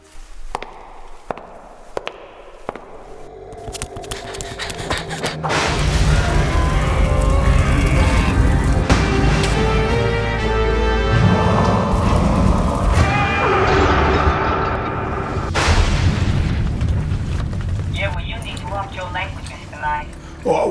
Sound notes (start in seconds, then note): 0.0 footsteps; 5.4 thunder